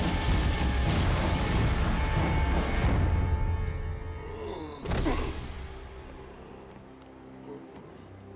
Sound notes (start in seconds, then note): 4.2 grunting